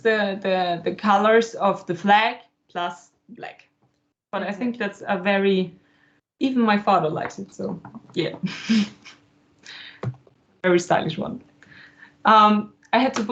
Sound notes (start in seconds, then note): 8.4 laugher